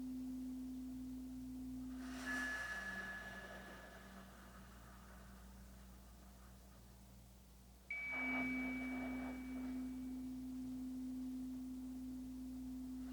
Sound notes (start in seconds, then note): 4.3 chimes ringing continues; 4.3 slow breathing continues